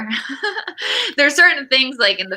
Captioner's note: laughs